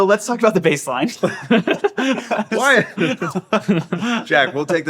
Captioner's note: group laughing